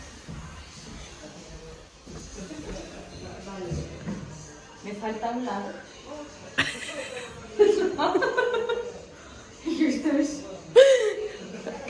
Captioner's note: laughs